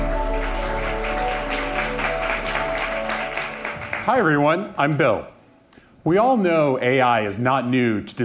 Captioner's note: applause